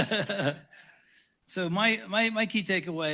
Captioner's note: laughter